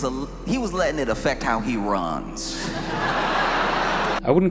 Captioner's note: laughter